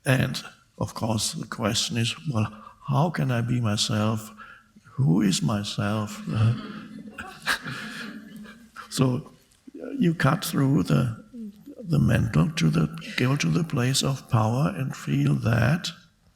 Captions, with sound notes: And of course, the question is, "Well, how can I be myself? Who is myself?" (Eckhart laughs) So you cut through the mental. Go to the place of power, and feel that,